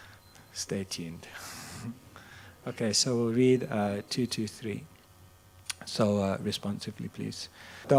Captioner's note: chuckles